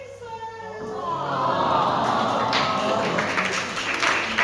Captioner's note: audience go "awww"